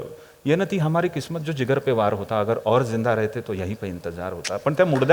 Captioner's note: reciting urdu shayari